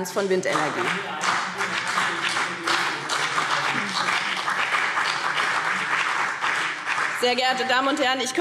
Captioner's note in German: Beifall BÜNDNIS 90/DIE GRÜNEN und vereinzelt CDU